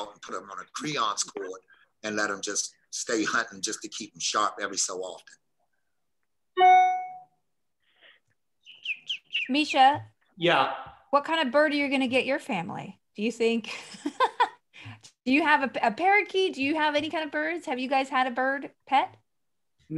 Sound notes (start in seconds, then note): 13.6 she laughs